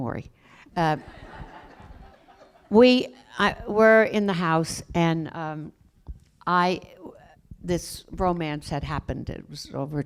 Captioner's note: laughter